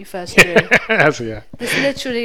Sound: laughs

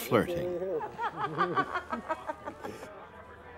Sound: laughing

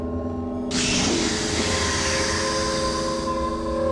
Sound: Gila Munja continue hissing

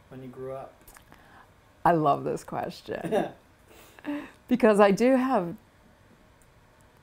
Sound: laughter

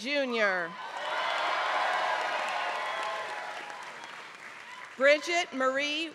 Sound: applause

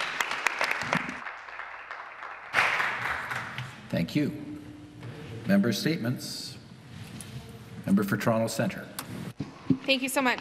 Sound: some Applause

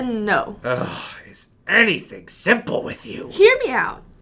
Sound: sigh; annoyed tone

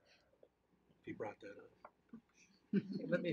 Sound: laughing

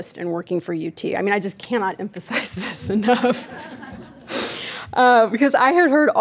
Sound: laughing

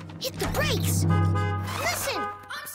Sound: horn honking

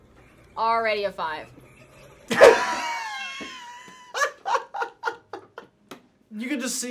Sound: laughs

